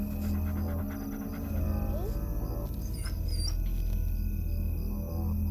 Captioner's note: dog whining